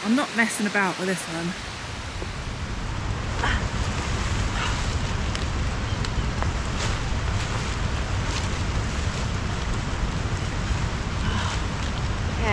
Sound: rain

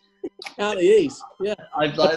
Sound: giggling

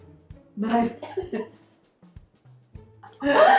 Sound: both laugh

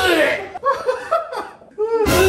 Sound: about to cry

